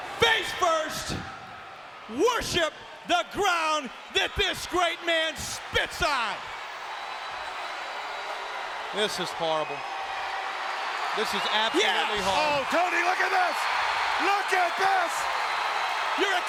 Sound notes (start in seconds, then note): 7.1 audience cheering; 13.9 audience cheering